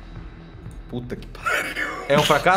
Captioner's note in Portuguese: risada